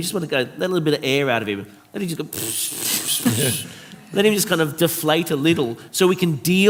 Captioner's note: makes deflating sound